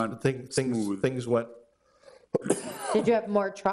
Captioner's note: coughs